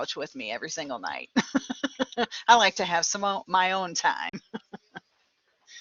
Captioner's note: laughter